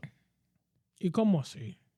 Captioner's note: speaking In Foreign Language